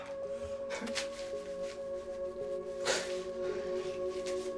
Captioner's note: man crying